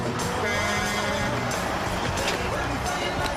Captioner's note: bus horn honking